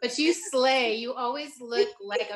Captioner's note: laughing